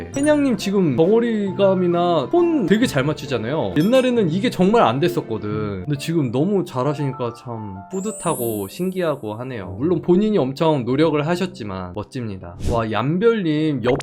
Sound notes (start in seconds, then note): 12.1 voiceover